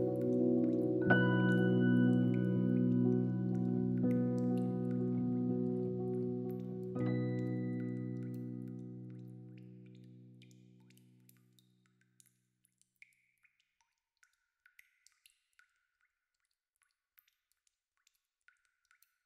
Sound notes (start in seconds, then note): 9.5 water dripping